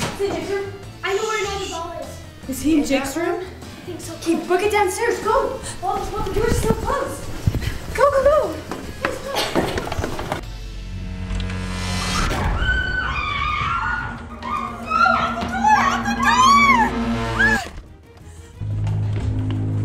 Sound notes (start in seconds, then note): 10.6 ominous music; 12.4 screaming; 16.6 ominous music